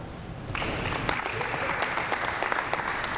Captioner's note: applause